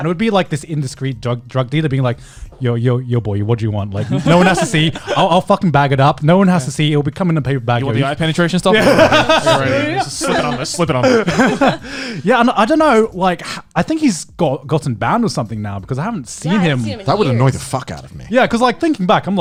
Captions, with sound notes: And it would be like this indiscreet drug dealer being like, yo, yo, yo boy, what do you want? Like, no one has to see, I'll fucking bag it up. No one has to see it will be coming in a the paper bag. - Penetration stuff. (laughing) - Slip it on. - I dunno like I think he's got gotten bound or something now because I haven't seen him. - That would annoyed the fuck out of me. - Yeah, cause thinking back,